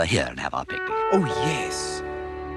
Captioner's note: none